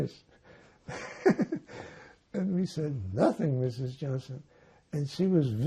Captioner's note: laughing